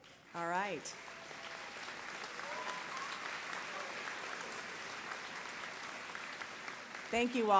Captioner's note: applause